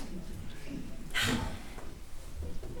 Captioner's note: exhale